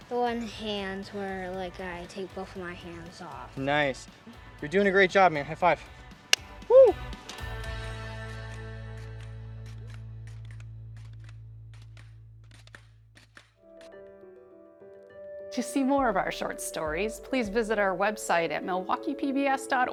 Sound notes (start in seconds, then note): 6.3 hand slapping; 11.3 pogo springs click; 13.6 soft music